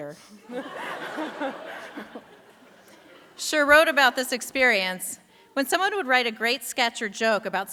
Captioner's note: laughter